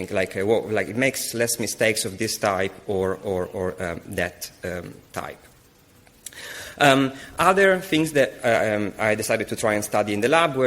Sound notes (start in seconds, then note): none